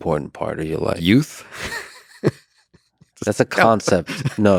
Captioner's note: chuckles